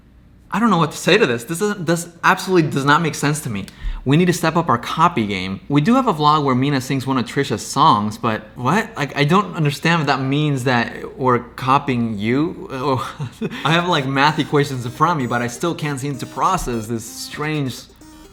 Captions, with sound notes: I don't know what to say to this, this is-- this absolutely does not make sense to me. We need to step up our copy game? We do have a vlog where Mina sings one of Trisha's songs but what? Like, I don't understand what that means that we're copying you, or-- [laughs] I have, like, math equations in front of me but I still can't seem to process this strange...